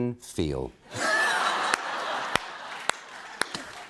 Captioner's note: laughter